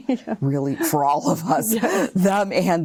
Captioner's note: laughing